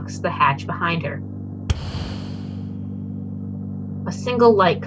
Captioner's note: door slams